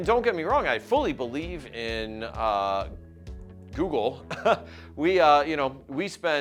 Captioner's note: chuckles